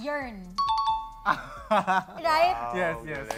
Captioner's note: chuckles